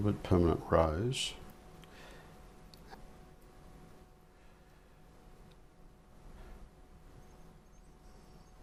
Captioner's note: silence